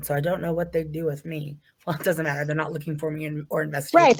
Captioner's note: chuckles